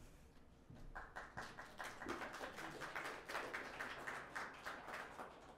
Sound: audience clapping

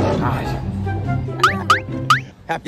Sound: laughing

